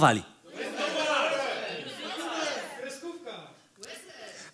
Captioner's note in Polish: krzyki publiczności